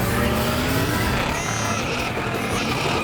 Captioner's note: bleating